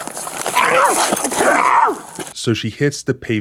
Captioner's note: screaming